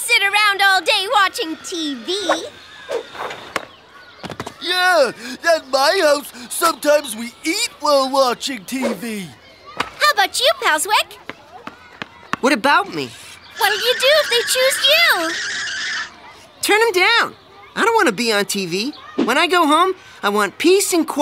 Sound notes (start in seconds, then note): 15.8 tires screeching